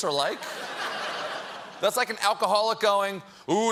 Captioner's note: laughter